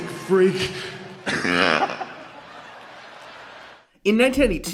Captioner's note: Triple H chortling